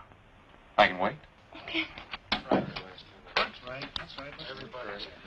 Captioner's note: chattering